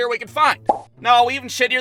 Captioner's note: pop!